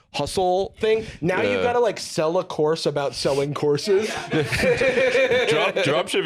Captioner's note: laughs